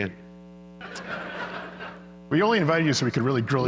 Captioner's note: laughter